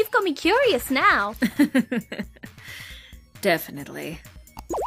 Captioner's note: chuckles